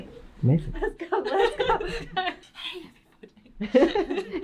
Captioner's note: laughs